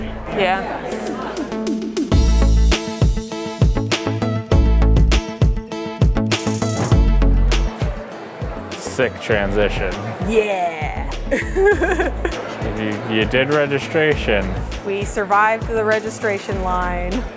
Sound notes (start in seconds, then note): 11.1 laughs